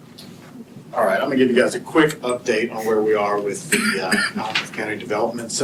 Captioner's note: clears throat